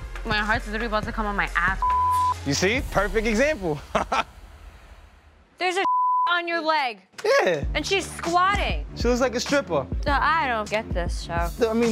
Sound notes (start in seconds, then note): 1.8 beeping; 4.0 laughing; 5.8 beeping